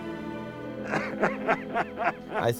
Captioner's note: weeping